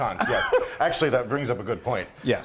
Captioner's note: laugh